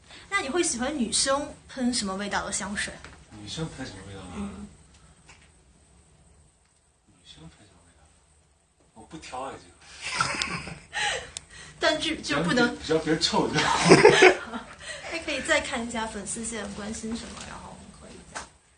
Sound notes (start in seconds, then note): 13.6 laughs